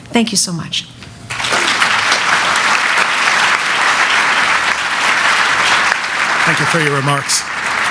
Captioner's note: applause